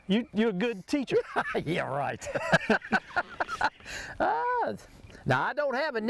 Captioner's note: laughs